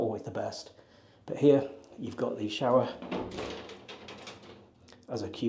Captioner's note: door clicking